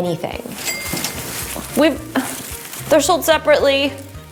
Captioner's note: bell dings